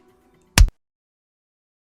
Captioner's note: stabbing sound